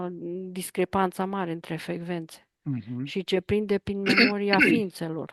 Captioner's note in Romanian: voce dreasă